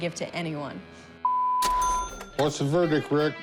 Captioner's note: cash register dings